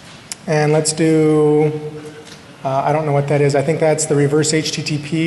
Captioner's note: off mic